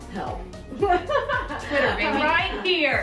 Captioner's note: laughing